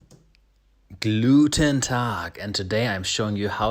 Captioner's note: speaks in foreign language